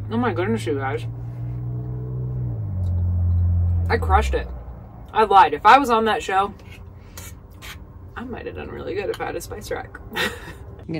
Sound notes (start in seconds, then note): 1.4 cars whooshing; 10.0 laughing